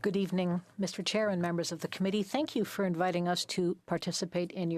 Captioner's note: speaking French